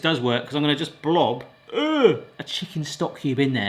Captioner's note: groans